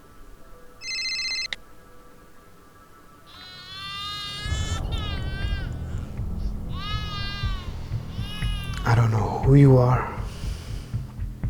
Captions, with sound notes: (baby crying) - I don't know who you are.